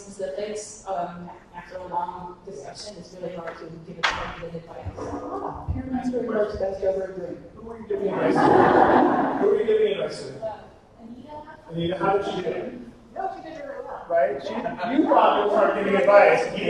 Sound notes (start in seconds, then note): 4.1 slam drowning out speaker; 7.9 attendees laughing